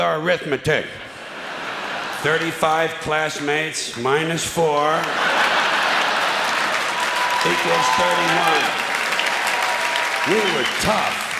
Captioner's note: clapping and cheering